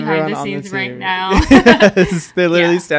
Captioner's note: laughs